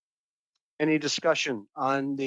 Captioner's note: speaking French